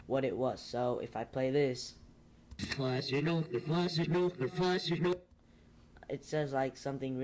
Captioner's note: creepy backwards noises